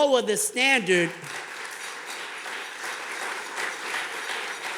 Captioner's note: audience clapping